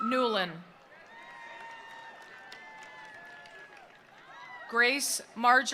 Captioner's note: attendees cheering; attendees applauding